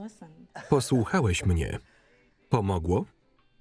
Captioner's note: Ben laughs